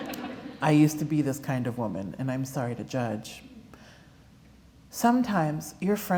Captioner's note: laughter